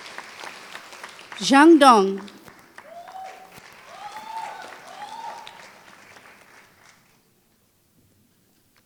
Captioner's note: applause